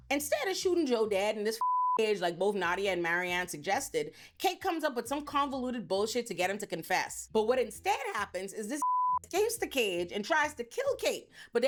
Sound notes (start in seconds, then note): 1.6 beep; 8.8 beep